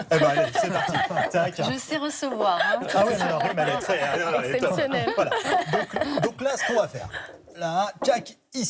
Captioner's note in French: rires; rires